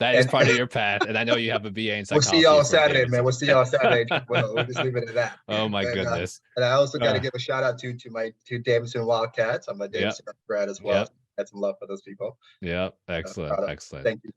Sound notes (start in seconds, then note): 4.3 chuckling; 9.4 audio distortion